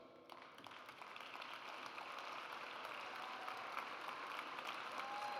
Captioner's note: audience cheers